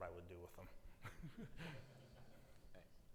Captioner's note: attendees laugh